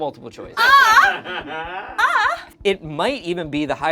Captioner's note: crew member laughs